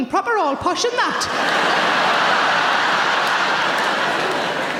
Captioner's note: audience laughing